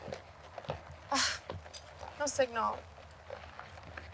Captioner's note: scoffs